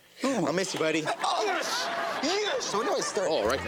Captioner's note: audience laughs